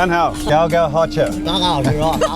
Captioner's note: dongbei dialect